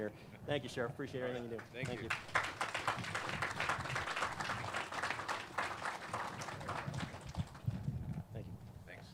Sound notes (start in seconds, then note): 1.6 clapping